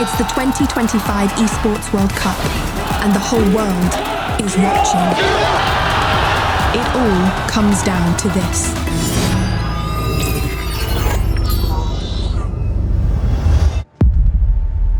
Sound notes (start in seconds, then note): 5.6 crowd cheering; 9.4 upbeat music concludes